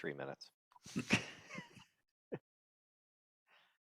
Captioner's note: laughs